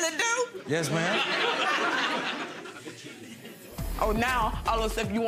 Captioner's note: crowd laughs